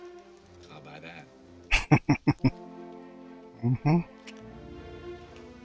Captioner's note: chuckling